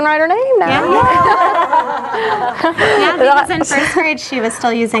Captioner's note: 'yay's and laughter